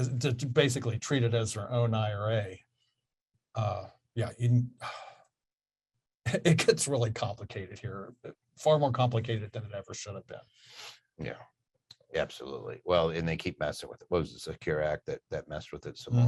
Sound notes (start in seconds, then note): 4.8 sighs